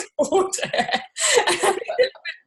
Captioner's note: both laughing